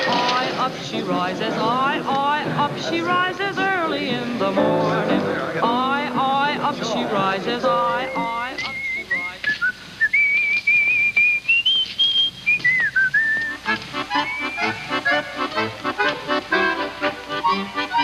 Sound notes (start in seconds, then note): 8.5 whistling